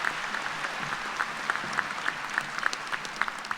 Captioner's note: applause